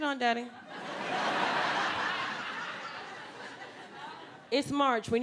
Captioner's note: audience laughing